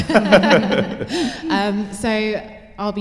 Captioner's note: laughter